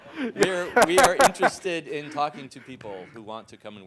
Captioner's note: laugh